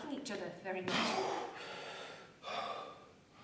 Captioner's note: he exhales